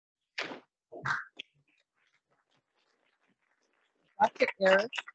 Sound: audience applauding

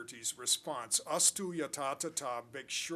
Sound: non-english speech

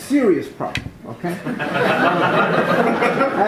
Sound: laughter

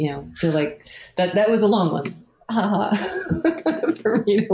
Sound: laughs

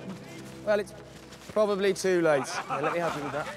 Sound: scattered laughter

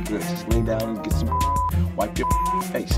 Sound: beep

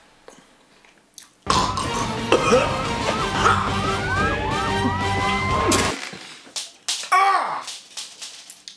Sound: chokes, coughs

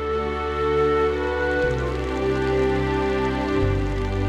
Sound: rain pattering

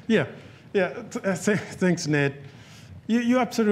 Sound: none

